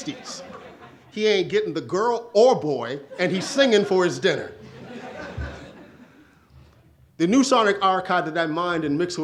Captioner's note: audience laughs